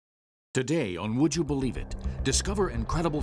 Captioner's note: voiceover